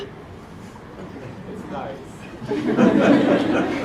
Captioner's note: laugh